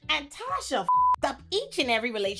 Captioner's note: beep